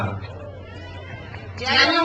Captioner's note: speaks in foreign language; crowd cheers